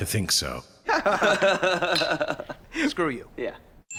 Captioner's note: Mac and Dennis laughing